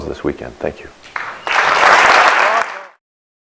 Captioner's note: applause